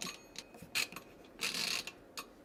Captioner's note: more twisting noises